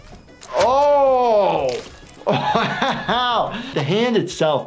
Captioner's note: laughs